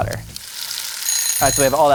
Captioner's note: timer going off